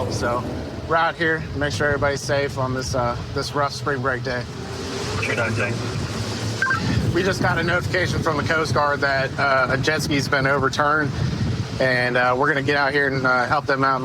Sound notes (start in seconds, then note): 5.4 radio communication